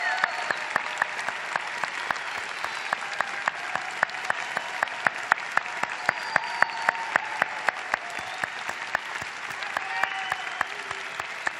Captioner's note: applause